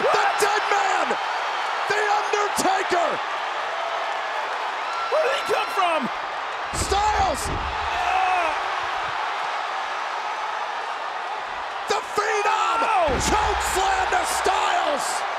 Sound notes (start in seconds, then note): 3.3 audience cheers